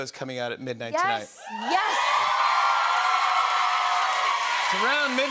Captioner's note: cheers and applause